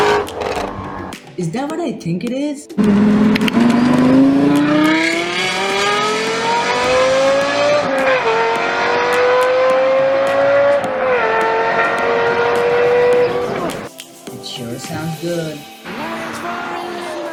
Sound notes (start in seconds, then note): 0.0 Godly Shelby GT350R Noises; 2.8 Mighty LFA Noises